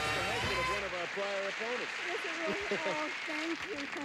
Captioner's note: audience applauding; indistinct chatter